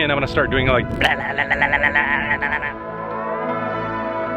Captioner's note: mouth noise